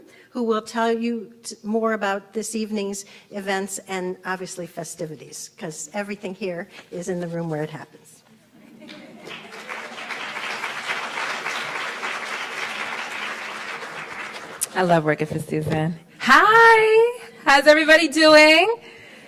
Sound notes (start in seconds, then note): 11.2 laughs; 12.7 applauds